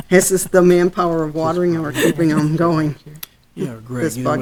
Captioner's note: laughing; voice muffled